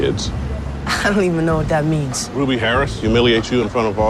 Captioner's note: none